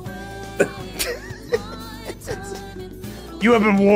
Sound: laughs

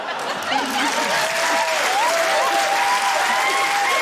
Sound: laughter, cheering, applause

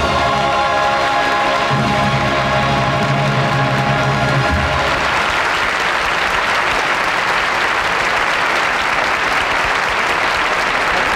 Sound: audience applauding

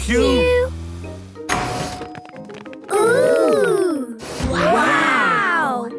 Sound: door dings open

